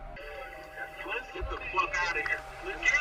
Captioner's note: voiceover